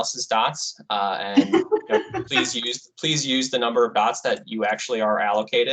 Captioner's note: woman laughing